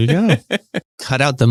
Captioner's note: laughs